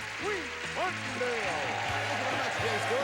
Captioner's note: audience cheering